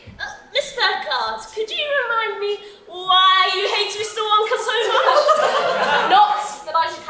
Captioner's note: audience laughs